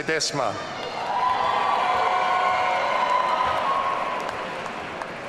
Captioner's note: audience cheering